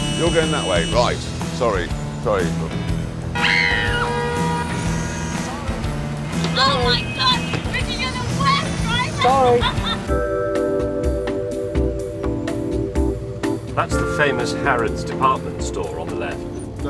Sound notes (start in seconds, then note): 3.4 screams